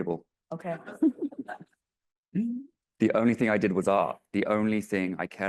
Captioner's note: laughs